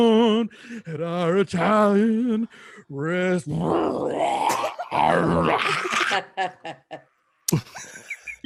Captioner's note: growling